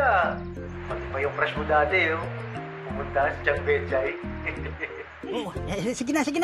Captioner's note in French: chuckles